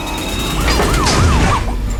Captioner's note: sirens wailing